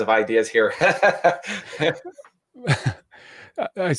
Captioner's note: laughing